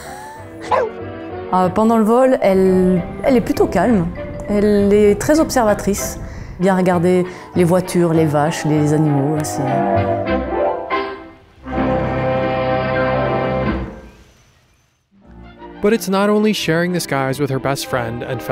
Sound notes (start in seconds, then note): 0.6 dog barking; 1.7 speaking in a foreign language; 9.6 cheerful instrumental music